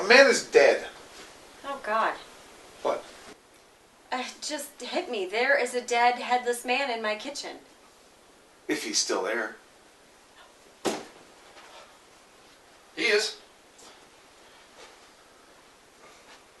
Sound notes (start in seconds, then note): 10.9 door